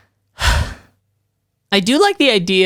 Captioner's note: sighs